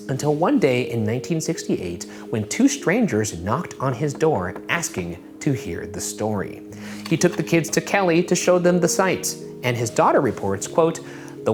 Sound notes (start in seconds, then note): none